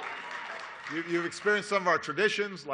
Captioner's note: applause